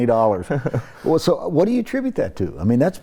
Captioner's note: chuckles